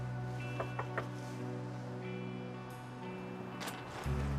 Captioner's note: gentle knocking; tense music